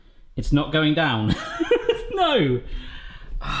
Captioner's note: laughs